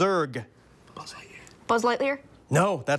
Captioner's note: whispers